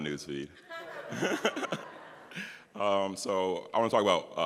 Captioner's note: everyone laughs